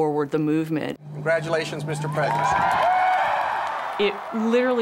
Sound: crowd cheering

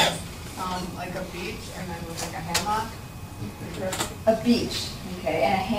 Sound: voiceover

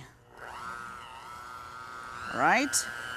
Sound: mixer whirring

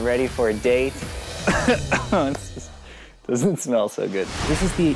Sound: coughs

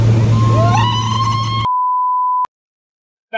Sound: fearful screaming

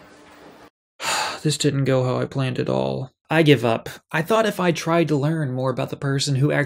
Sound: deep sigh

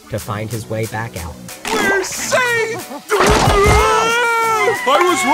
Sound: screaming

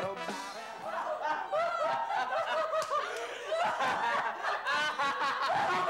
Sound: laughter

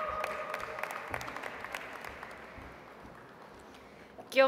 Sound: audience applauds

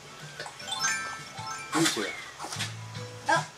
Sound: bells chiming

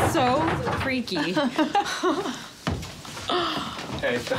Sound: laughing

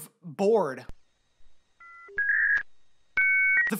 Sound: dial up modem noise

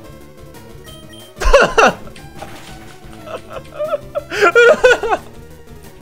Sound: laughs

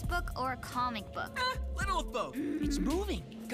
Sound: Mia grumbles

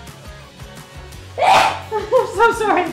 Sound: loud sneeze

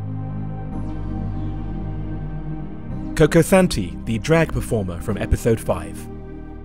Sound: voiceover

